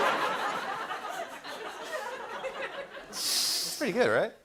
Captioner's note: laughter